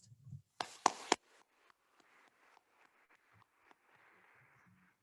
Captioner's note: attendees applauding